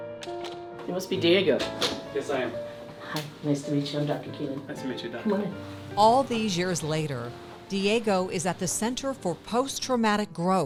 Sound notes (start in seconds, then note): 1.5 door clicks